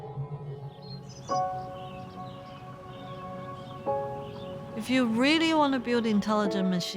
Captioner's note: birds chirping